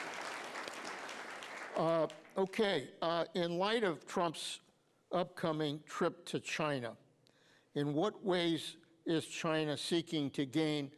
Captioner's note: applause